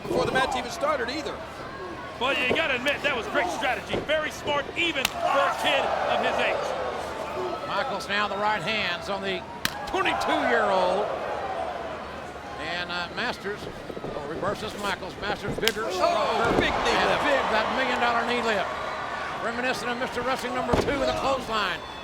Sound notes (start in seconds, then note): 15.2 knee thuds